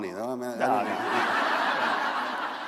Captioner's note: laughter